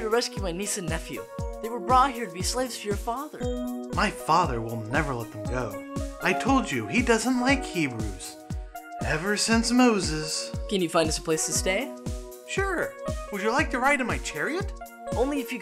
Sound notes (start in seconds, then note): none